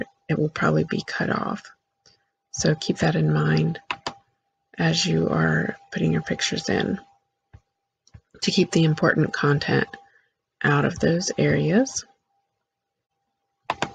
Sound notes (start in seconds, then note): 3.7 click; 13.7 click